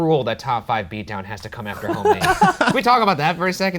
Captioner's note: laughing